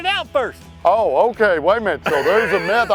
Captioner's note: laughs